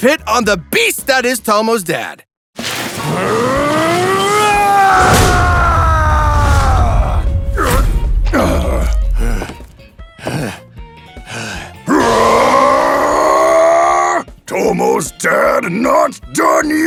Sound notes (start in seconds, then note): 3.0 Jun roaring; 3.7 Tomo's Dad grunting; 11.9 roars